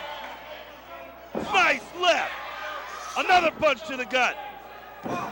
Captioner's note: crowd cheering